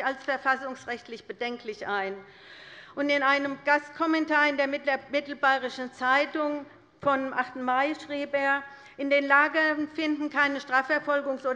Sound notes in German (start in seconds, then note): none